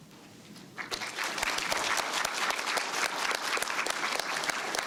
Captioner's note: applause